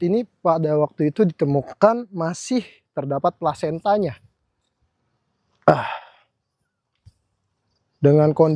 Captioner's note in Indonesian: menghela napas